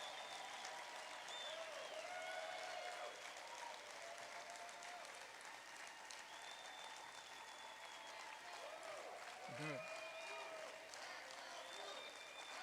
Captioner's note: applause